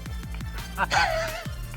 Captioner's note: laughs